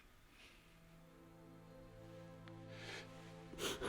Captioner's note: softly weeps